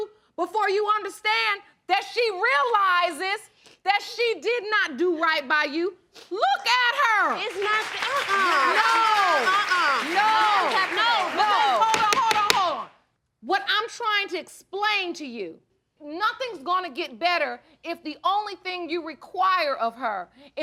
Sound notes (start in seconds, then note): 6.7 audience applauding; 11.8 gavel pounding